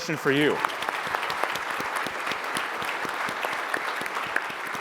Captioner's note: audience applauds